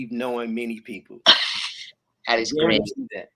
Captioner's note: laughs